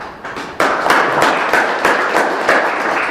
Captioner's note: applause